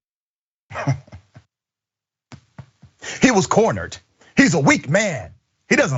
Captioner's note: laugh